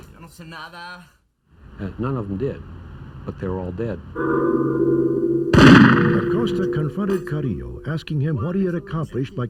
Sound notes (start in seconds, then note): 0.3 trafficker speaks Spanish; 4.2 intense music; 5.5 gunshot